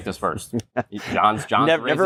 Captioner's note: laughter